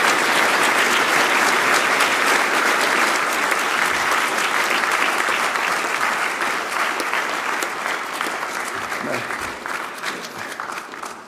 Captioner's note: applause; laughs